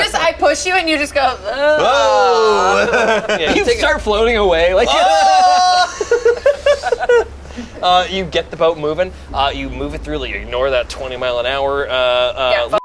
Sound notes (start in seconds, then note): 5.1 shouts